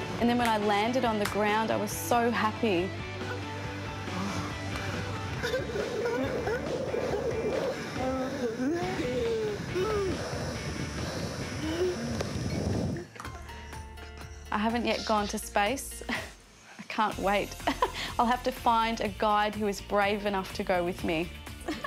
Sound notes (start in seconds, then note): 5.3 soft laughter; 8.3 rock music continues; 17.5 laughs; 21.6 laughs